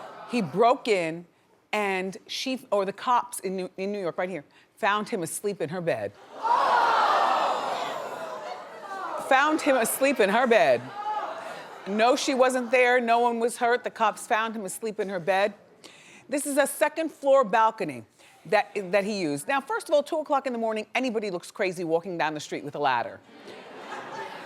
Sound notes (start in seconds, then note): 0.0 audience groans; 6.2 audience gasps